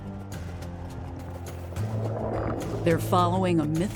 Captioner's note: water gurgling